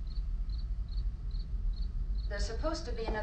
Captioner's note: none